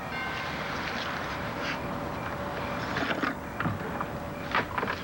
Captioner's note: doorbell rings